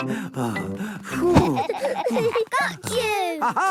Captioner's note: all laughing; panting